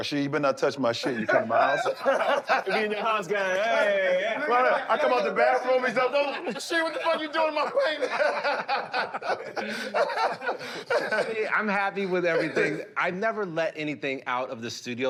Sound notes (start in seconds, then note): 2.5 laughter; 8.8 laughter